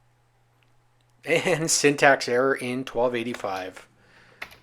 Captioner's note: chuckling